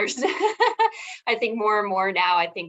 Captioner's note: laughing